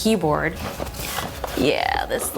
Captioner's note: packaging rustling